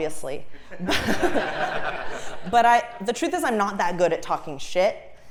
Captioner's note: laugh